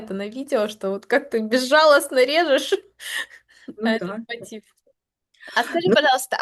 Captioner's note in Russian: смех